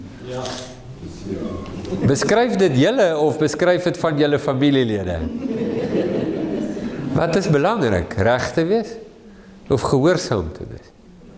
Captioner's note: laughing